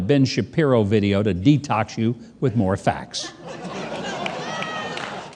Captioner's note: audience laughing